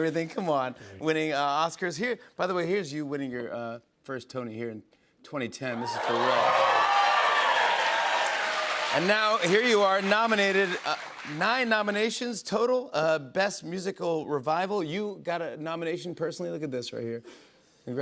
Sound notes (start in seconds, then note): 5.7 cheers and applause